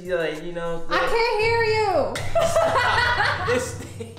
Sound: laughs

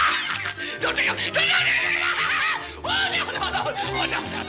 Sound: laughter continues

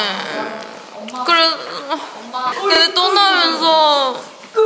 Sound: teary

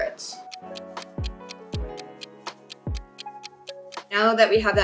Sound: clock ticking

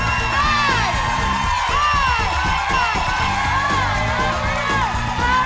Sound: upbeat music continues; audience cheering

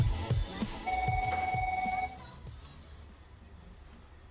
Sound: phone rings

